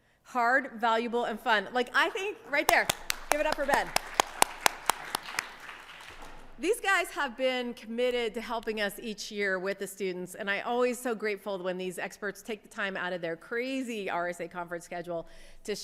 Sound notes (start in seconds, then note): 2.6 audience clapping